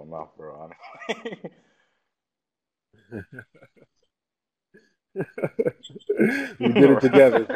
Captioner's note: laugh